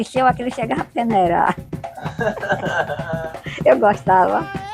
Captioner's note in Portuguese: risos